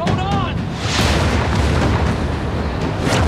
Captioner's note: explosions